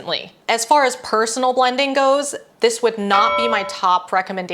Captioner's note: bell noise